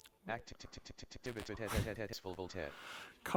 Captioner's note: screenreader is stuttering